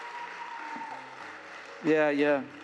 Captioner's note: applause